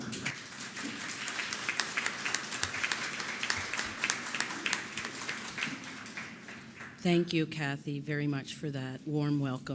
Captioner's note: applause